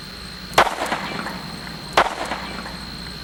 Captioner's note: gunshot